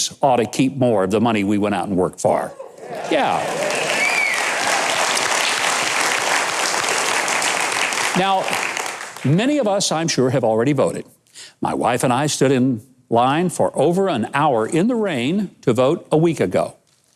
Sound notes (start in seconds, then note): 2.5 audience cheering; 6.2 audience clapping